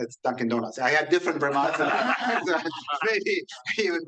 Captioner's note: laughs